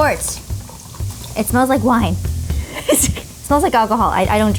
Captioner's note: laughing